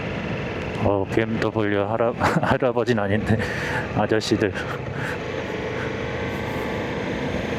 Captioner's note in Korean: 웃음